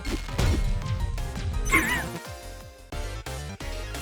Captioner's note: gasping laugh